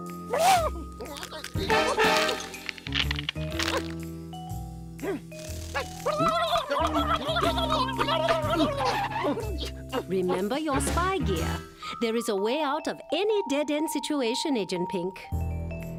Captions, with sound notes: (exclaims) (gobbles angrily) REMEMBER YOUR SPY GEAR. THERE IS A WAY OUT OF ANY DEAD-END SITUATION, AGENT PINK.